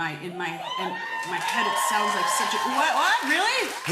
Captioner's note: cheers and applause